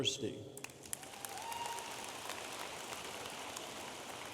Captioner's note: audience applauding